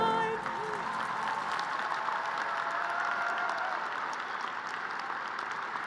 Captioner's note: crowd cheering and applauding